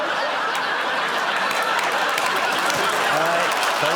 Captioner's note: laughter